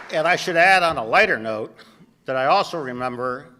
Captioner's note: applause